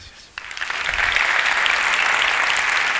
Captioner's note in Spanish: Aplausos